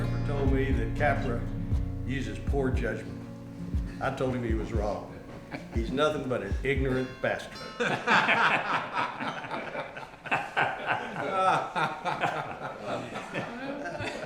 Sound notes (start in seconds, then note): 7.6 group laughs; 8.3 doorbell rings